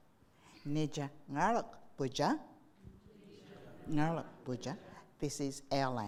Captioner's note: speaking in foreign language